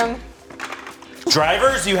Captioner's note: lego blocks clacking